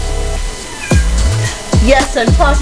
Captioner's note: Arwen meows